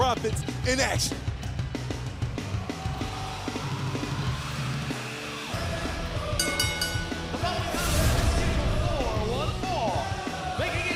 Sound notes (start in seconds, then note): 6.3 bell ringing